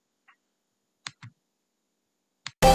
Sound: clicking sound

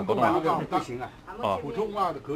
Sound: mandarin

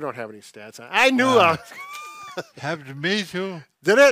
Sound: laughing

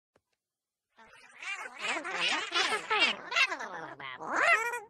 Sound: letters chattering

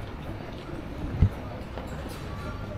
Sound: people chattering

